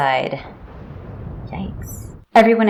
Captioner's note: thunderclap